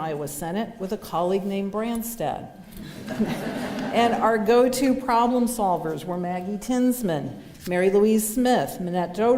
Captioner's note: laughter